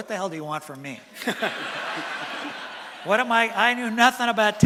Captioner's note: laughter from audience